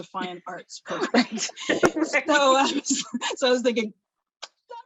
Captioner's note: laughs